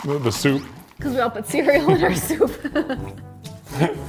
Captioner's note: laughs